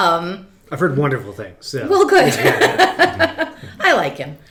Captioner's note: laughs